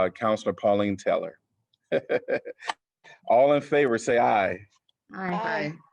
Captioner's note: laughter